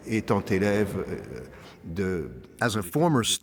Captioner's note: speaking in French